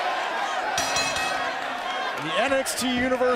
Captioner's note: bell ringing